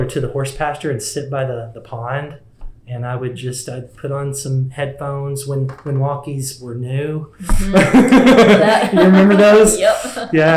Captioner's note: laughs